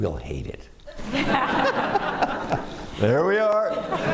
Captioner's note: laughter